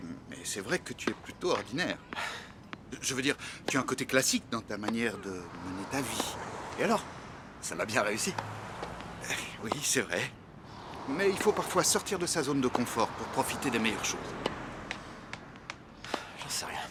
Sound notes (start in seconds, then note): 1.9 scoffs; 15.8 sighs